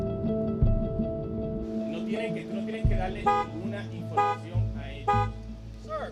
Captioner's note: car honking; speaking Spanish